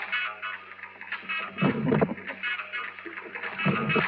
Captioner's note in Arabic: جون يضحك ويرفع الصوت